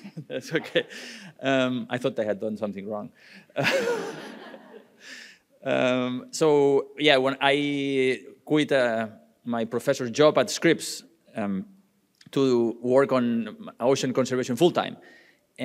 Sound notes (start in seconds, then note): 3.5 laughing; 3.6 audience laughing